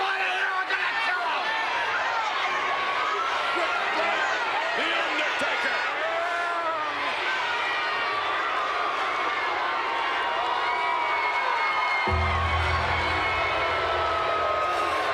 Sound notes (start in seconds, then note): 6.5 crowd cheering; 12.0 creepy music